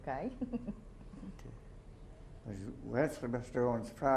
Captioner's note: chuckles